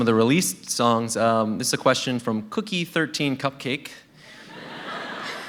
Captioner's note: laughter